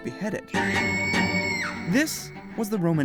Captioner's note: scream